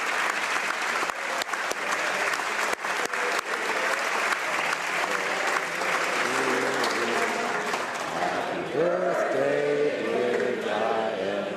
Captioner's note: applause